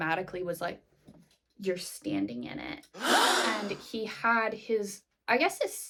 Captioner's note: gasp!